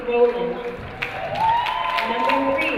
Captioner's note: crowd cheering